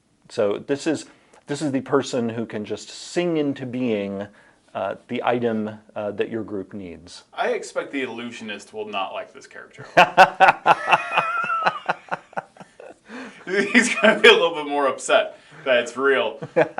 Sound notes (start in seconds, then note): 9.8 both laughing